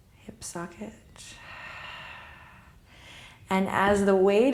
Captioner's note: deep exhale